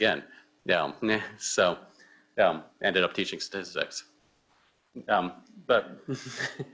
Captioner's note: chuckles